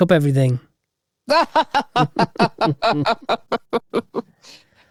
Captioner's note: laughs